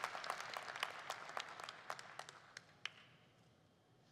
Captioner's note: applause